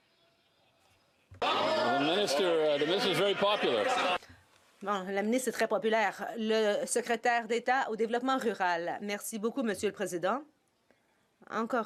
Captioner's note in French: voix de l'interprète